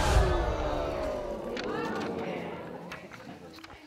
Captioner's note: audience murmuring